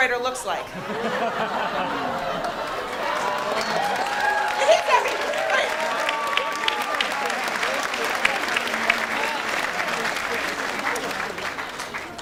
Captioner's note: audience laughs